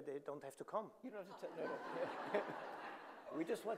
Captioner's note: audience laughing